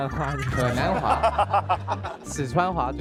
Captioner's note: trying the accent